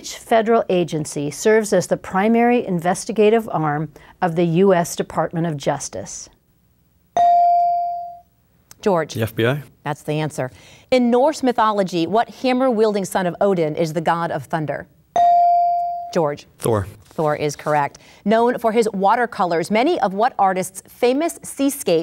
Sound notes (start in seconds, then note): 7.1 ding; 15.1 ding